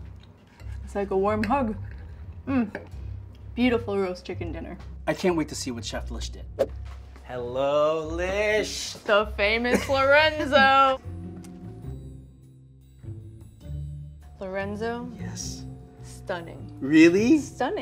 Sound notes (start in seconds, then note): 10.4 laughs; 11.0 lively music